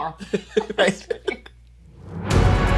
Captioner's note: laughs